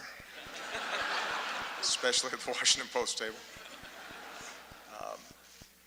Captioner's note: laughter